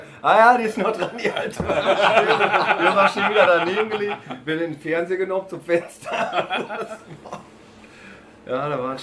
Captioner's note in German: lachen